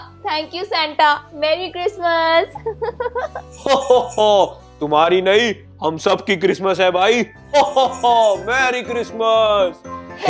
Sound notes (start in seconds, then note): 2.5 laughing; 2.6 Santa laughing